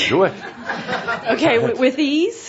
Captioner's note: laughter